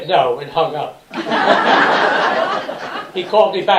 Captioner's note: laughter